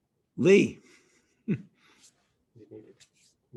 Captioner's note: chuckles